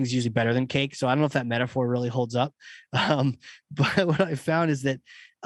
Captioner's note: laugh